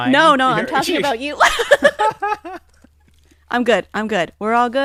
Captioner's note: laughs